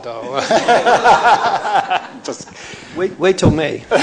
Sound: laughter

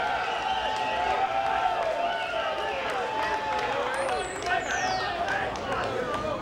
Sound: cheers and applause

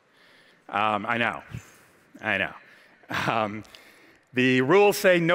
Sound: laughs

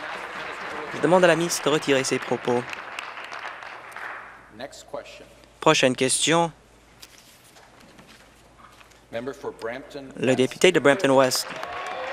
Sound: applause

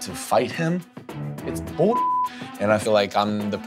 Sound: beep

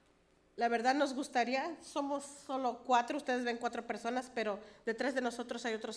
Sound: speaks foreign language

